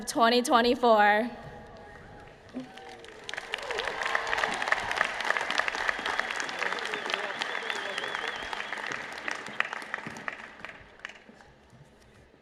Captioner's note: applause